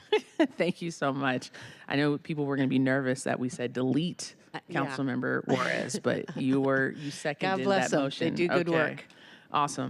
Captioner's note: laughter